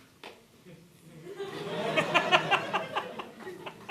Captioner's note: laughter